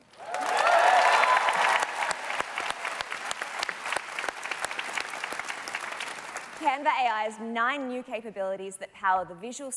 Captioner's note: cheers and Applause